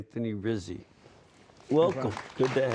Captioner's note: applause